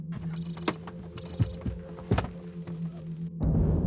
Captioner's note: sat nav reprogramming noises